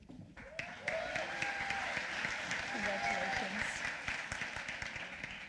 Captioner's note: applause